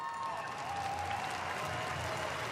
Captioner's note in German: Applaus